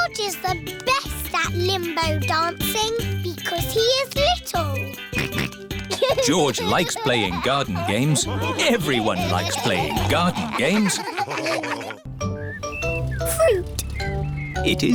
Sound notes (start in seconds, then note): 5.1 snorts; 11.2 all laughing